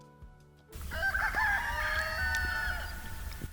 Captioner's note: rooster